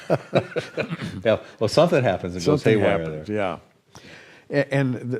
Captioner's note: laughter